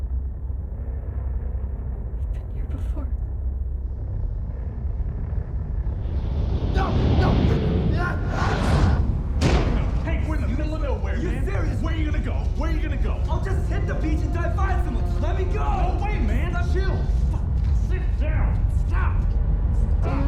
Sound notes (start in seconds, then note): 4.3 low rumble; 8.0 luke screaming